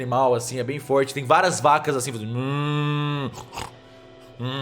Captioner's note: moo